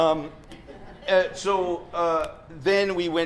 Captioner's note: chuckles